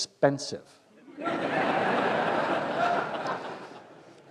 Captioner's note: laughter